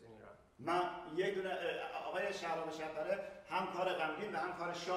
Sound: speaking in farsi

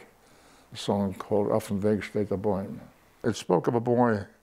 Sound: Yiddish

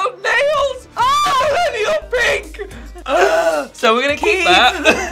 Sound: Alexa exclaiming

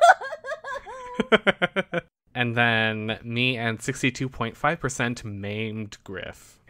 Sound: laughs

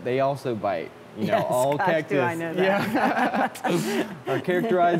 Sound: laughs

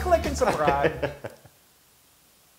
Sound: laugh

